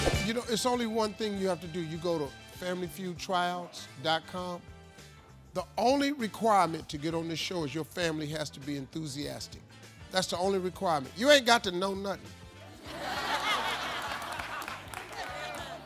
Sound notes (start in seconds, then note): 0.0 upbeat music; 12.7 audience laughs